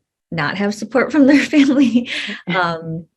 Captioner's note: chuckles